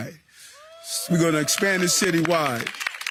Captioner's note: clapping